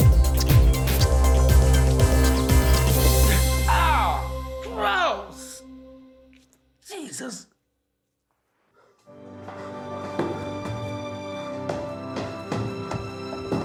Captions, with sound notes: - (groans) Gross! Jesus! (dramatic music)